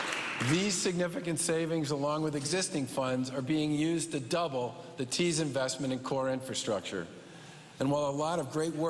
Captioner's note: cheers and applause